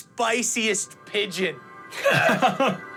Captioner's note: laughs